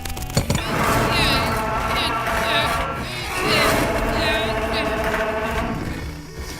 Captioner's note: grunting